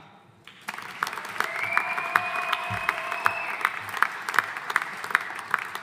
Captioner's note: audience applauding